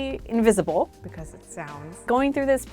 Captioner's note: echo-y